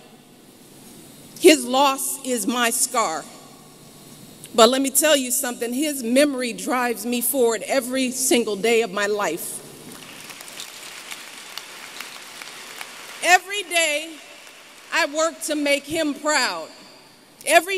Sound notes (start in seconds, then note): 9.9 applause